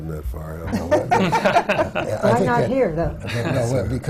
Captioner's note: laughter from the panel